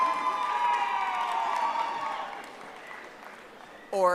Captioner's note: audience applauding